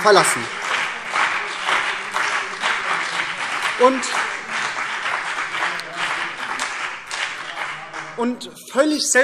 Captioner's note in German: Beifall BÜNDNIS 90/DIE GRÜNEN und vereinzelt CDU